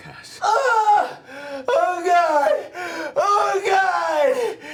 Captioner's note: yells in pain